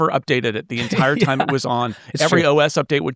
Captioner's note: laughing